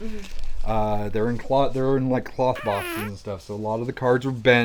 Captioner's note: fart sound